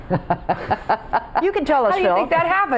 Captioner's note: laughing